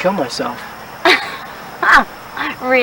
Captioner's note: laughs